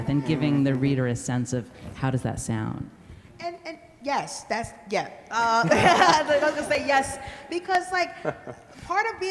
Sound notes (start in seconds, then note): 5.6 laughs; 5.7 everybody laughs